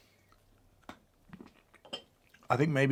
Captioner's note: chocolate cracking